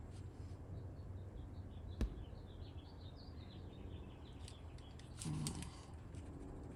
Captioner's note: birds chirping